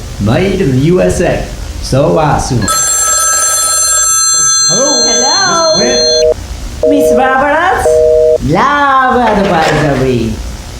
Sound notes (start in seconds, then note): 2.6 rrriiinnggg; 5.6 disconnect tone